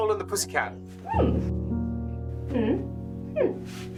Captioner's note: tight-lipped voice